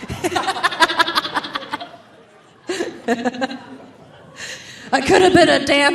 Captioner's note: audience laughing; laughing